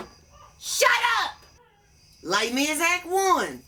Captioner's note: dog whining